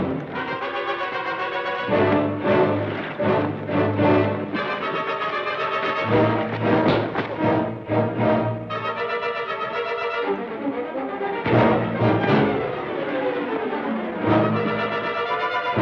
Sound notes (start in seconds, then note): 6.5 thud; 11.4 thud